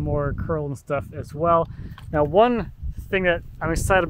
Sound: none

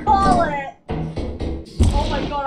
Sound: heavy footsteps on metal

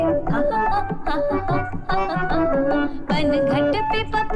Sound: humming

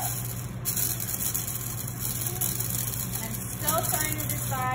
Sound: grinding sounds

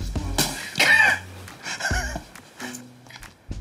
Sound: laughs

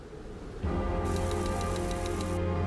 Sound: brooding music; text clacking

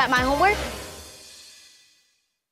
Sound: silence

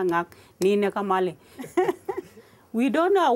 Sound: laughter

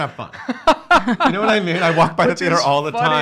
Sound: laughing

